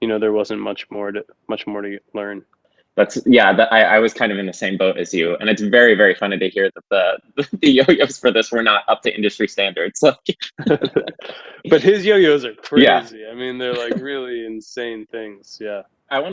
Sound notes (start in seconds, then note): 10.3 both chuckle